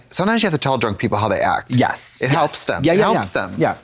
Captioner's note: none